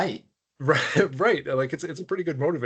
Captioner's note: chuckling